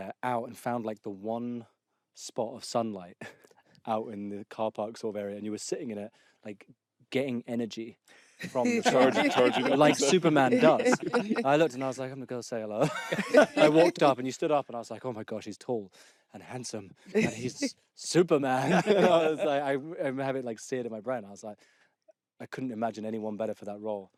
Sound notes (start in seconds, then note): 8.4 laughter; 18.5 laughter